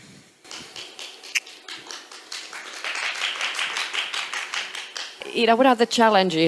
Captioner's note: applause